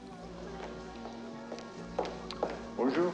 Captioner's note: footsteps